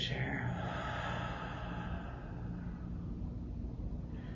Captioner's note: exhales